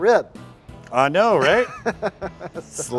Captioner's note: laughs